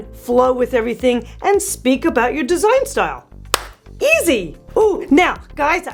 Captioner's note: claps